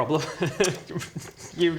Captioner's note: evil laugh